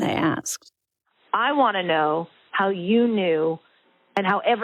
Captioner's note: over the Phone